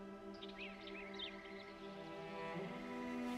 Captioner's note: birds chirping